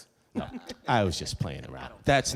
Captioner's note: laughing softly